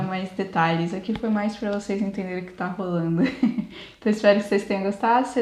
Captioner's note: laughs